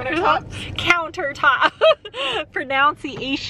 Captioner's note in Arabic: يضحك